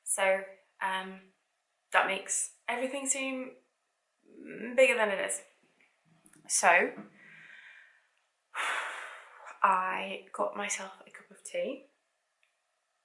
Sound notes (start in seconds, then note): 8.6 exhales air